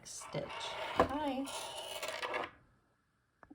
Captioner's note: needles scraping as they slide off the desk in exhaustion